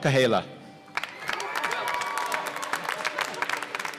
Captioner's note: applause